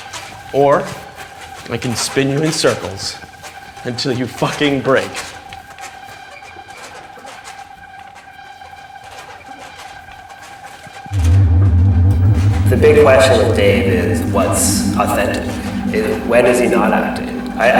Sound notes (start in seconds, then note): 11.2 electric whirring